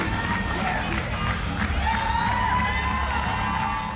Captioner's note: crowd cheering